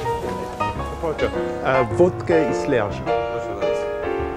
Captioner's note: speaking polish